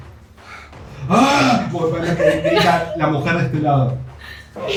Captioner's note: scream